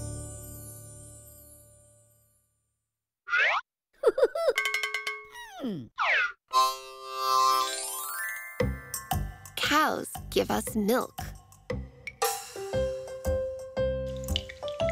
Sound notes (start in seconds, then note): 4.0 giggling; 4.6 bell ringing; 6.5 harmonica plays